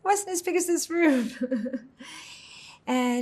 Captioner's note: laughing